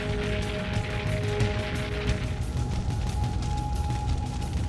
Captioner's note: fire rumbles